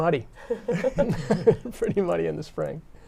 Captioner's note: laughter